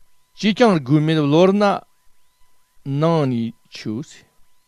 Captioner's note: tibetan